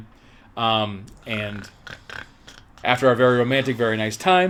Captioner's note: snorts